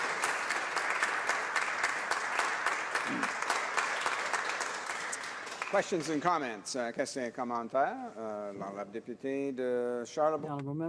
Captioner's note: applause